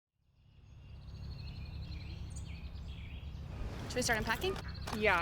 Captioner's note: birds twittering